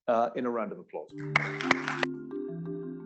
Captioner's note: applause